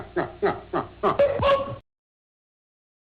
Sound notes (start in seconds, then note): 1.1 boinging